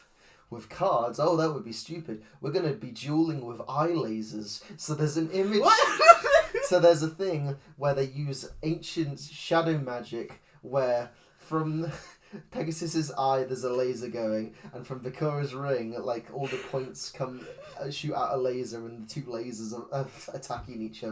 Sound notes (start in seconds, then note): 5.4 laughs; 11.4 wheezes